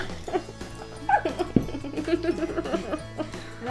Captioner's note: laughter